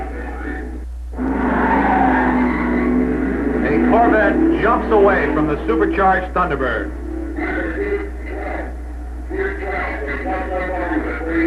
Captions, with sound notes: (tires squealing) A Corvette jumps away from the supercharged Thunderbird. (announcer echoing)